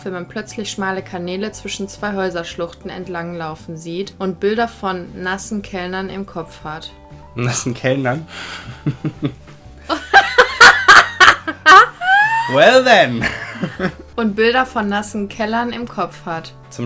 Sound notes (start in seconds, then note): 9.9 laughing very loud; 9.9 laughing